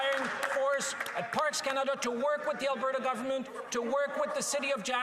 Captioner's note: some Applause